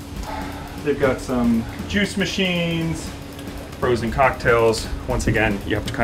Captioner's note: sighs